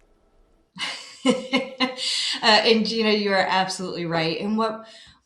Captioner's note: chuckles